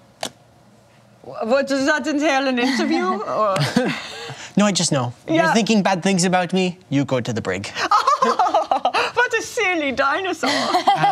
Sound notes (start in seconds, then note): 1.5 imitates German accent; 7.8 laughs; 9.3 imitates German accent; 10.4 laughter